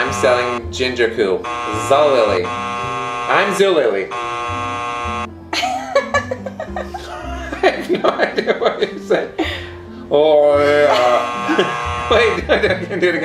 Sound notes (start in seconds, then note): 0.0 buzzer buzzing; 5.5 laughing; 10.7 buzzer buzzing; 12.2 laughing